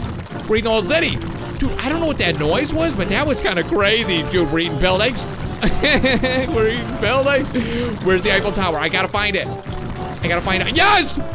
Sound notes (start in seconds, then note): 5.4 laughs